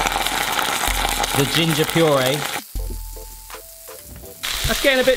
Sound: oil sizzles; gently upbeat music; oil sizzles

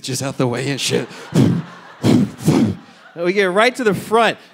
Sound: audience laughing

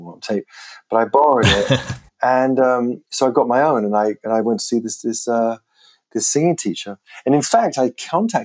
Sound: laughter

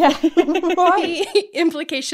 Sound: laughing

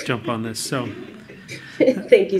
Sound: laughter

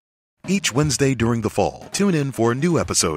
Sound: voiceover

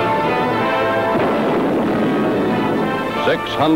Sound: cannon booms

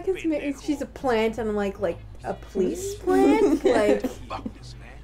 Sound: laughter

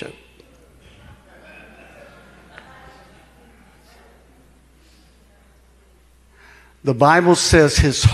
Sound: congregation laughing

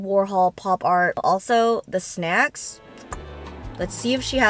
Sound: clicks tongue

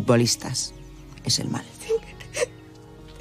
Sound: snivels

